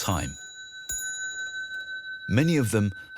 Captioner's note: clock chiming